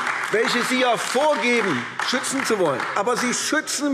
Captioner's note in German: Beifall AfD